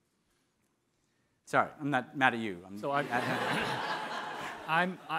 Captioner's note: audience laughing